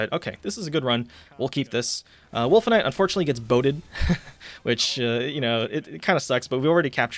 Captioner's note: laughs